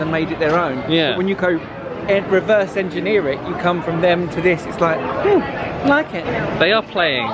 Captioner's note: none